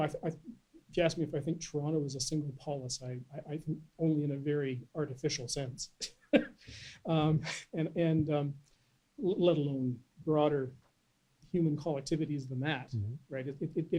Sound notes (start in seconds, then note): 7.3 laughs